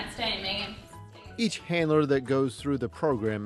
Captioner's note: voiceover